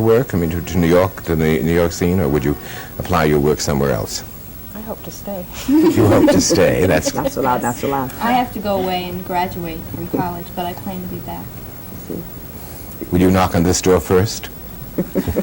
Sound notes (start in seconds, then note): 5.6 laughter